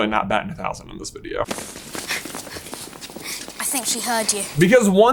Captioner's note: Hermione whimpering